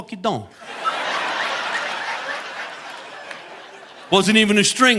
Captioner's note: audience laughing